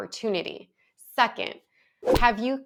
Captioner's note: audio whooshes